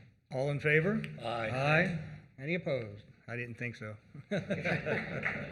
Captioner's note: applause